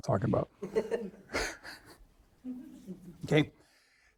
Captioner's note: all laughing